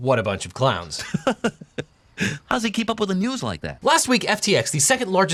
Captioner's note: chuckles